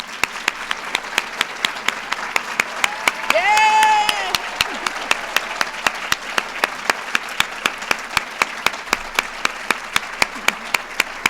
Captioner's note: applause